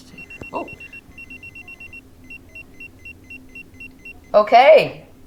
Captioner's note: pager beeps